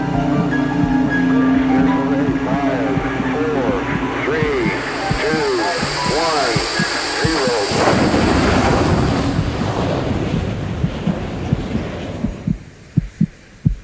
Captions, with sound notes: - [Man Over Radio] Five, four, three, two, one, zero. (roaring explosion) (heart beating)